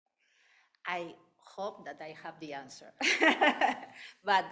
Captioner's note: laughing